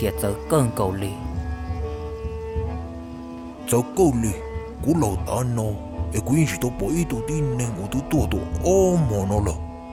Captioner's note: murmuring